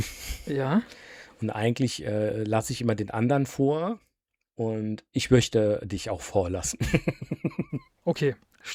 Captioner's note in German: gelächter